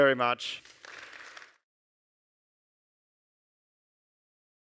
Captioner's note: audience applauds